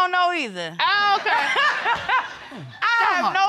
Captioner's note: laughing